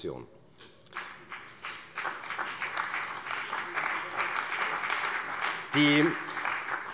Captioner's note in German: Beifall bei der CDU und dem BÜNDNIS 90/DIE GRÜNEN